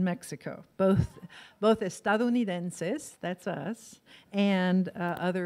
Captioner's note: foreign language